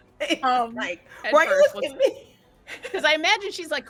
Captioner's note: laughing